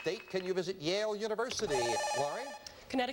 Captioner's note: buzzer